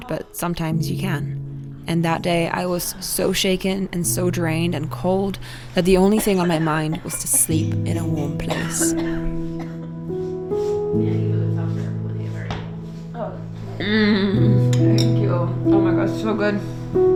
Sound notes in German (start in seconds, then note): 8.2 hustet; 10.8 coole Musik